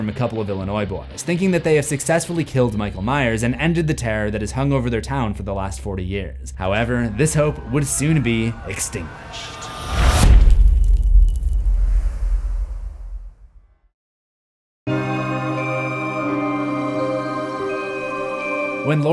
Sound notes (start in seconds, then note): 9.9 impact; 14.9 spooky music